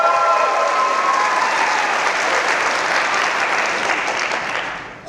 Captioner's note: audience applause